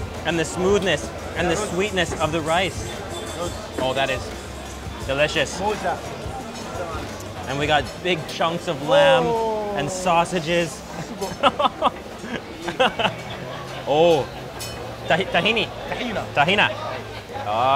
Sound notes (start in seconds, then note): 6.0 speaking in foreign language; 10.7 laughs